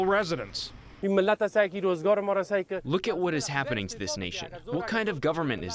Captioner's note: through translator